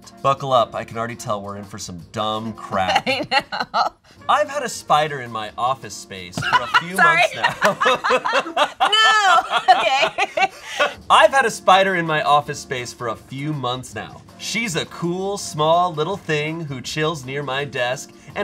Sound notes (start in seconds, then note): 6.4 Jackie laughs; 8.8 both laughing